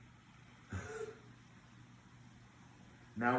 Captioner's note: laughs